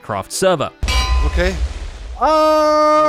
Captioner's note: anvil clangs; cheers